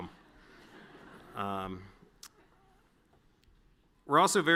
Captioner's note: audience laughing